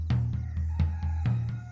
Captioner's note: rooster crowing